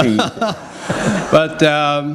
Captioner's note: laughter